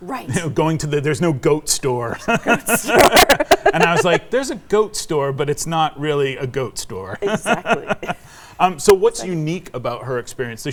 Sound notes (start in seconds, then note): 2.1 laughing; 7.0 laughing